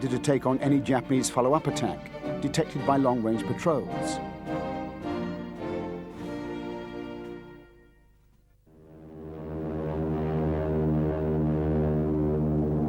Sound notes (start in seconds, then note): 8.8 airplanes rumbling